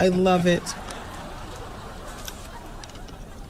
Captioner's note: audience laughing